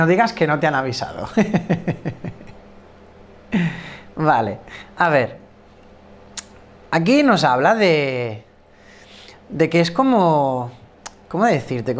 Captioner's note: laughs